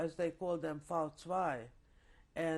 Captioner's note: german